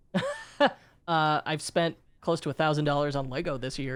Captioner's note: chuckles